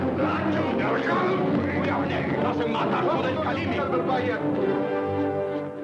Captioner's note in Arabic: موسيقى قوية; الرجال يصرخون بلغة أجنبية